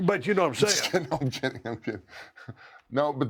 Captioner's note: laugh